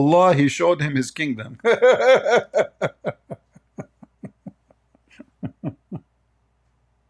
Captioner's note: Ketawa